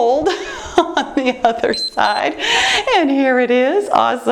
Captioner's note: timer beeps